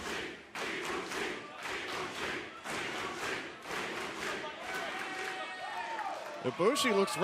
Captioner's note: fans chanting